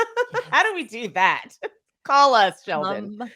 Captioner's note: laughs